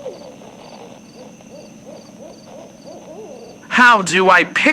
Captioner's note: owls hooting fx